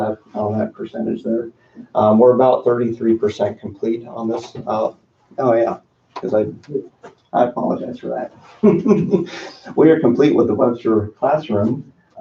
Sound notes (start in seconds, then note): 7.4 laughs